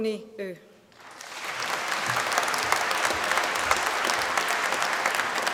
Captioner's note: applause